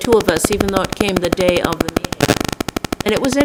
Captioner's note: static interruption